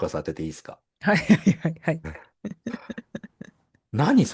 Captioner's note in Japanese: 笑い